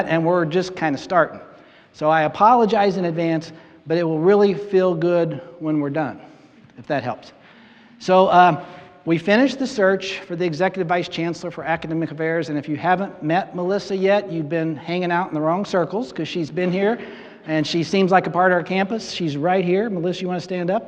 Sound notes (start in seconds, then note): 16.2 audience laughing